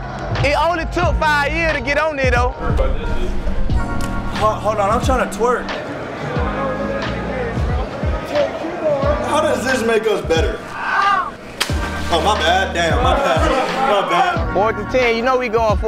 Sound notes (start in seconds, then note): 11.5 splash